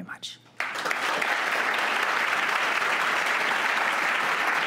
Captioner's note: audience clapping